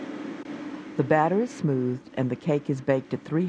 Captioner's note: voiceover